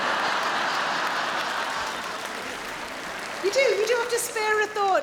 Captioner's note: audience laughing